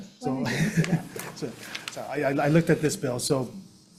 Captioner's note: laughs